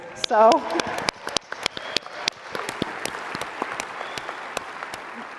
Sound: audience applauds

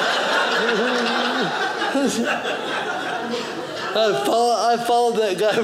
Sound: audience laughing

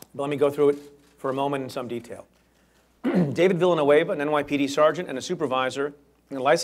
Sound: clears throat

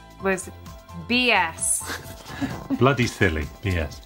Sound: laughing

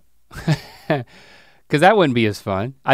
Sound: chuckles

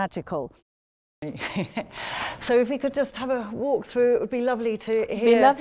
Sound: laughing

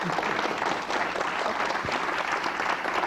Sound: applause

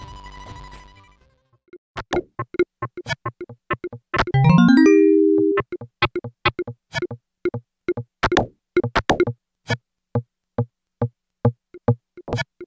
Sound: game sound FX

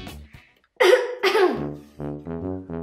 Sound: coughing

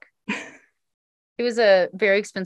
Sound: laughs

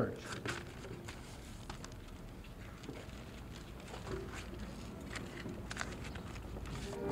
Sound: background noise and rustling paper

